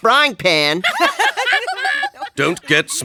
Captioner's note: laughing